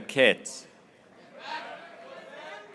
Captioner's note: graduates cheering